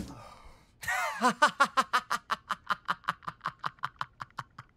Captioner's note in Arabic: يضحك